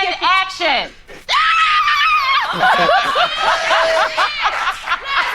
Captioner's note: Tender Lovins screams